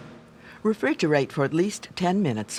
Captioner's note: voiceover